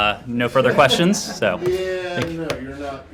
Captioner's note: laughter